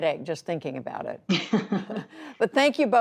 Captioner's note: laughter